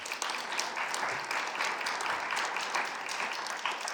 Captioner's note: audience applauding